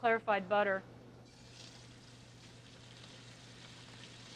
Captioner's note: oil sizzling